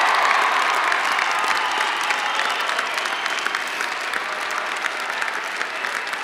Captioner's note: cheers and applause